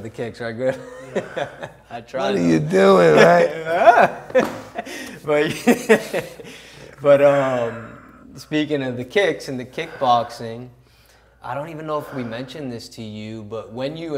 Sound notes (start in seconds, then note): 2.2 laughs